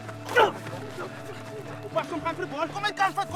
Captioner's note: grunts